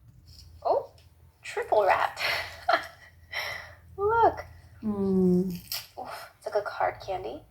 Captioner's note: laughing